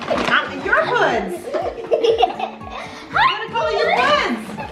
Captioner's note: kids laughing; laughs